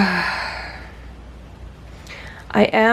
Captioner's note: sighs